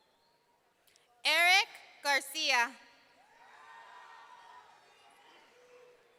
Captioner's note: audience cheering